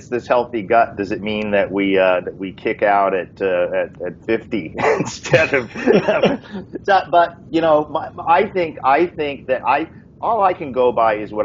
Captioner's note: laughing